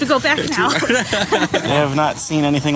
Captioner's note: laugh